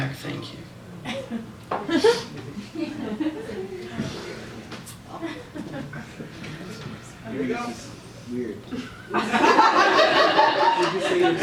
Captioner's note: laughter; laughter